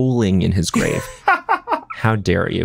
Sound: john laughs

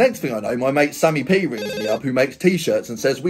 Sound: phone rings

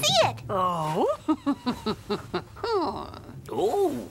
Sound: witch chuckles

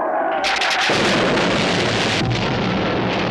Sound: explosion

